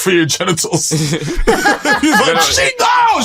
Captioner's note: laughter